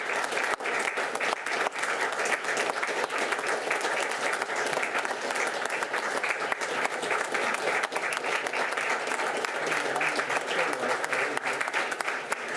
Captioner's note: applause